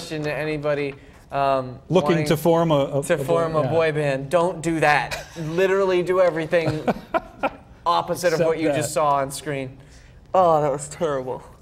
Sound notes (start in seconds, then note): 3.1 laughter